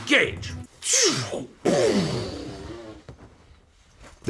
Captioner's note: makes rocket sounds